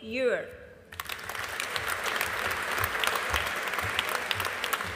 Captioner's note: audience applauding